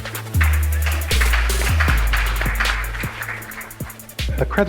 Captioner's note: audience claps